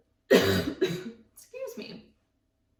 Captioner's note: coughs